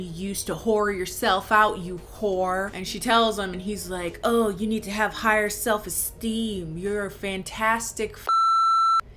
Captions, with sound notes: "used to whore yourself out, you whore." And she tells him, and he's like, "Oh, you need to have higher self-esteem. "You're a fantastic (beep)."